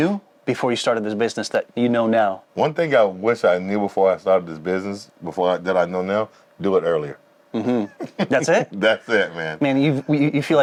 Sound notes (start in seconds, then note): 7.5 laughing